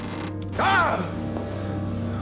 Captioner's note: floor creaking; gasping